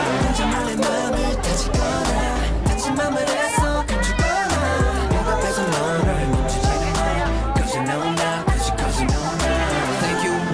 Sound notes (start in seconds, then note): 0.0 pirate Ship ride ends; 2.3 laughing